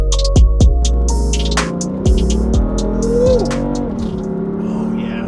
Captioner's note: car engine roars